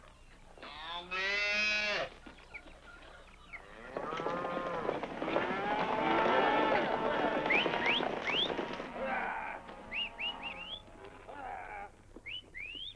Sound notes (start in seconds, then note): 4.4 cattle lowing and cowboys whistling